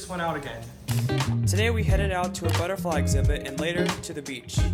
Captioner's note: voiceover